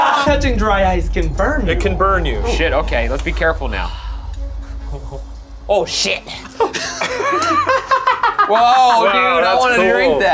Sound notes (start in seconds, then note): 6.6 laughing